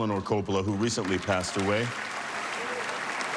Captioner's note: applause